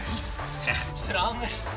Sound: laughs

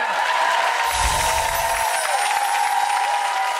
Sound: applause; chiming; applause

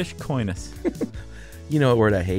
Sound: laughter

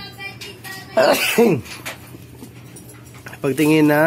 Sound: sneezing Sorry

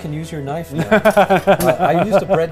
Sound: laughing

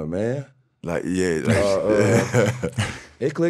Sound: laughing

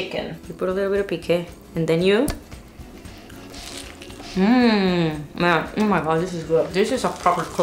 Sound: bite

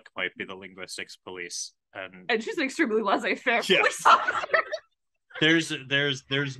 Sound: laughs

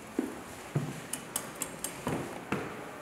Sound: clicking endlessly

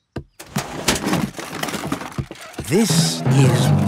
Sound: clattering

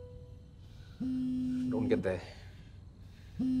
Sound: cell phone vibrating

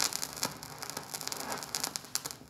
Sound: soft crackling

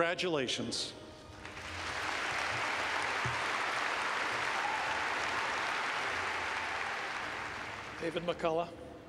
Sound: clapping

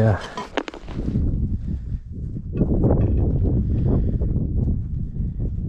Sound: wind whistling

